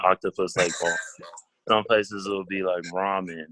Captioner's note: laughs